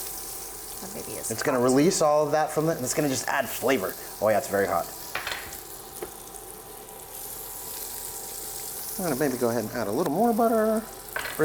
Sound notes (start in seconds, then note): 5.2 butter sizzling